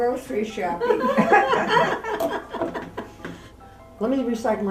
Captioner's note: laughter